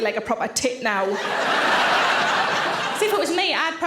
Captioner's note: audience laughing